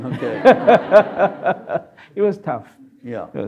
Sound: audience laughs

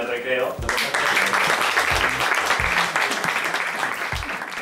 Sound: applause

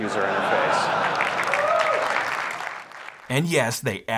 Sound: crowd applauding

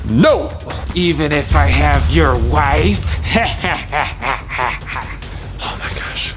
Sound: laughs

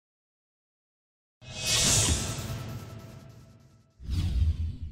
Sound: sound effects

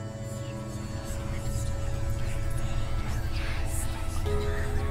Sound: eerie whispering

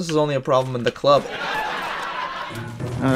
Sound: sitcom laugh track

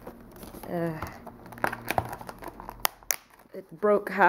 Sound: unboxing noises

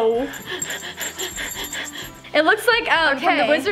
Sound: bell tinkling

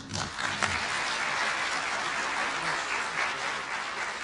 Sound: applause

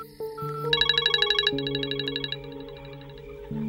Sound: phone chimes

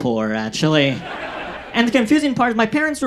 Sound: audience laughs

